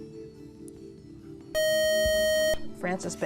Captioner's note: buzzer